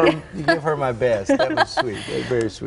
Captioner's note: laughter